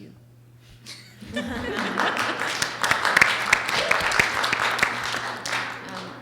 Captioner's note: audience laughs and applauds